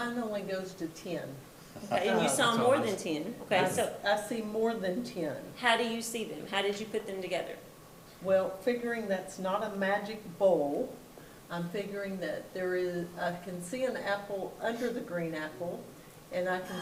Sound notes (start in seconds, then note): 1.7 participants chatting